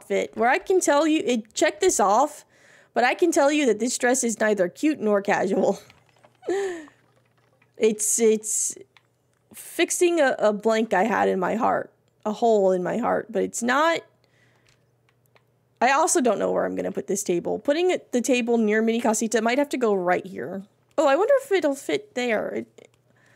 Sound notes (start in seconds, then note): 6.1 laughs